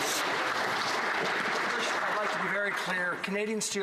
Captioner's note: some Applause